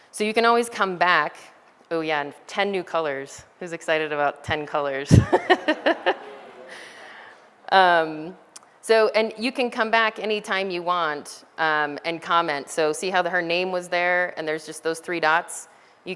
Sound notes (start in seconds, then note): 5.1 laughter